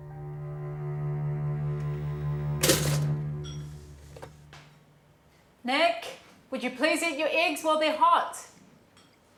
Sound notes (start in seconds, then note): 0.0 somber music; 2.6 toaster popping